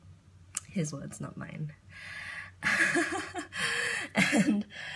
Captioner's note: laughs